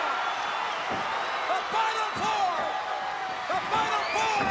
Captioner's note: applause